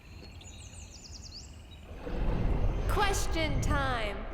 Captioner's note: background birds chirping